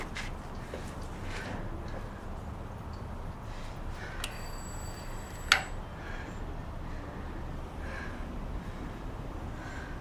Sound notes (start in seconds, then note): 0.0 breathing heavily; 4.3 doorbell rings